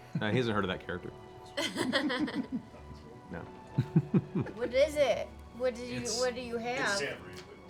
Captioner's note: laughs